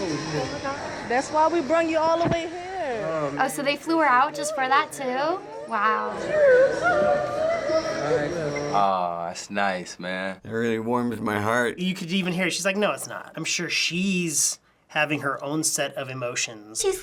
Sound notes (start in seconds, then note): 5.1 mom crying